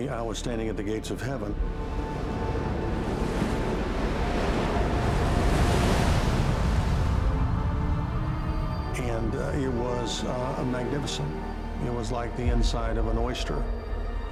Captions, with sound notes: I was standing at the gates of Heaven. [wind blowing] [waves crashing] And it was magnificent. It was like the inside of an oyster.